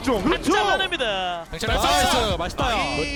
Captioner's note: BuZz